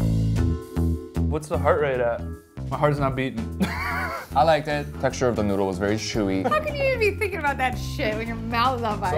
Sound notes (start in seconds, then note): 0.2 jazzy music; 3.6 laughs